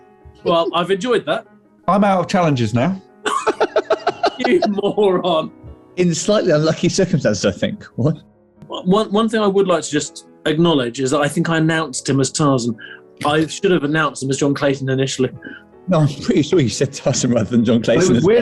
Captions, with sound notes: Well, I've enjoyed that. I'm out of challenges, now. [GIGGLING] You moron! In slightly unlucky circumstances, I think, Horne! One thing I would like to just... ...acknowledge is that I think I announced him as Tarzan. I should have announced him as John Clayton, initially. No, I'm pretty sure you said Tarzan, rather than John Clayton...